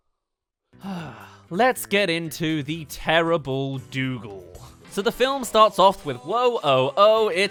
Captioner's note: sigh